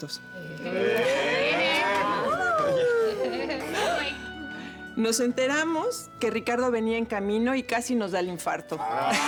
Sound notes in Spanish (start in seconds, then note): 1.1 exclamaciones; 1.1 risas